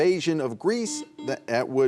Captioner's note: buzzer buzzing